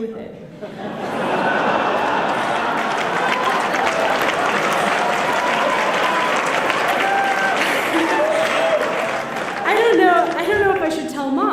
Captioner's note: applause